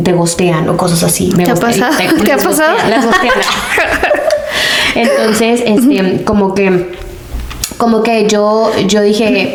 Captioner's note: laughs